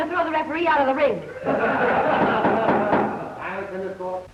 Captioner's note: audience laughs